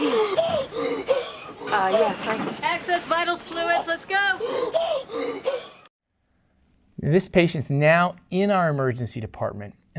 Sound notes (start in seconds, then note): 0.0 gasping; 4.4 gasping